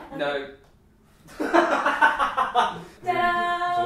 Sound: laughter

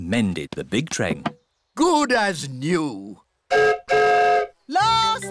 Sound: whistle blows

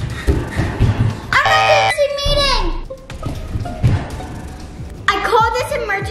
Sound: beeps buzzer

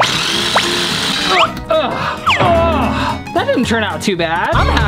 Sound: drill buzzes; grunts

